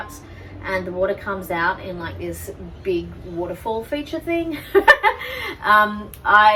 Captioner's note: laughs